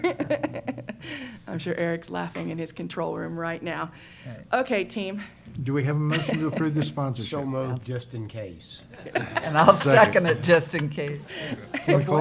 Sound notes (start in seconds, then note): 0.0 chuckles; 8.9 laughter